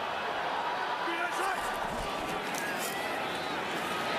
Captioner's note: cheering